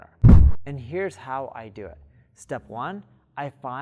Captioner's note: air whooshing